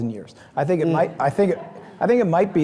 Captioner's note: audience laughing